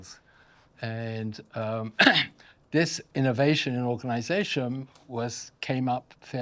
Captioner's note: coughs